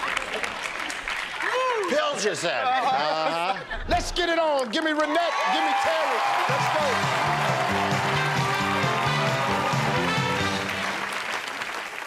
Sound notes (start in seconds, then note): 8.0 cheers and applause